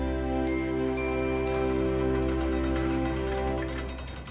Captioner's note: light clanging